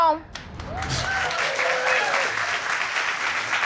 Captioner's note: audience applauding